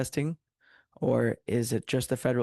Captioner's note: speaking French